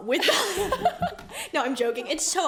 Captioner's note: laughs